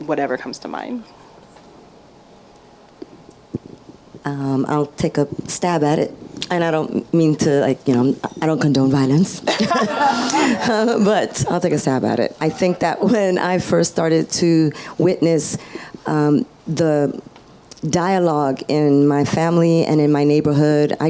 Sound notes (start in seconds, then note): 9.3 laughs; 9.4 audience laughs